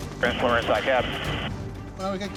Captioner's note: talking over radio